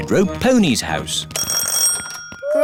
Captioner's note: door bell ringing; cackling, laughing, groaning